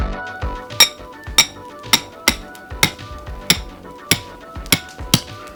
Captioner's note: exuberant music; hammer pounding on metal spike